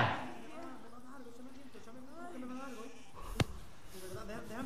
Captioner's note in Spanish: Gemidos